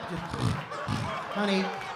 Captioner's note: laughter